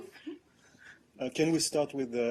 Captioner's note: laughter